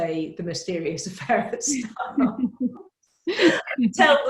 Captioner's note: laughs